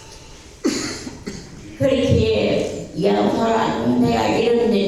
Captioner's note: speaking in foreign language